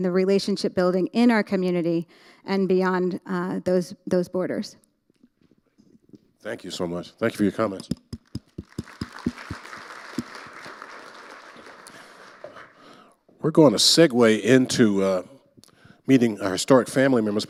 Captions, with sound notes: and the relationship building in our community and beyond those-- those borders. - Thank you so much. Thank you for your comments. (audience applauding) We're gonna segue into, uh... meeting our historic family members,